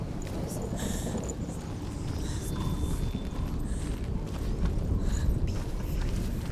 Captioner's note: heavy breathing; hushed